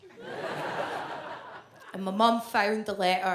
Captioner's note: audience laughs